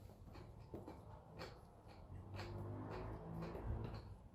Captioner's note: crunch crunch